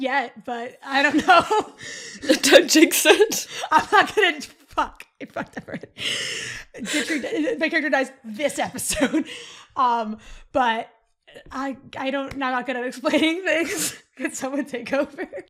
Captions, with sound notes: yet, but I don't know! Don't jinx it! I'm not gonna jinx—fuck. I fucked up (laughing). Yitri—my character—dies this episode. But I don't...I'm not good at explaining things. Could someone take over?